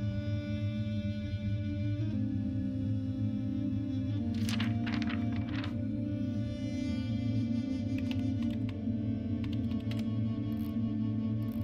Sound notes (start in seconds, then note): 0.3 slow music begins; 4.3 crinkle of pages turning; 9.5 quiet clack of a computer keyboard